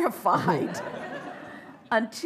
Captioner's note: laughter